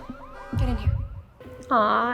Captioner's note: car alarm blaring